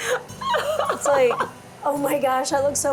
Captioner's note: laughing